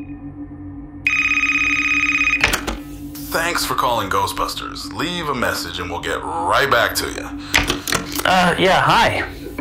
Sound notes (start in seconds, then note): 1.0 answering machine; 1.0 phone ringing; 4.8 answering machine